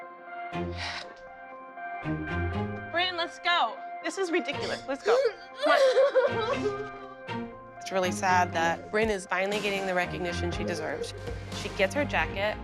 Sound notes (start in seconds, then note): 0.8 sighs; 4.5 sobbing